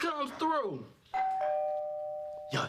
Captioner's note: doorbell rings